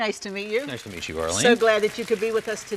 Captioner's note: audience clapping